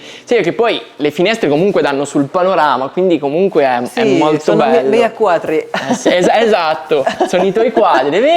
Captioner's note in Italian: risate